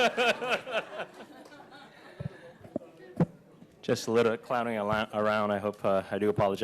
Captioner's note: laughter